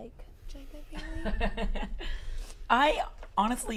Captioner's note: laughter